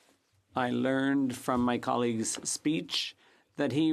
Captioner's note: speaking French